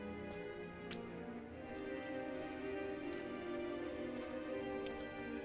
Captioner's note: night sounds of crickets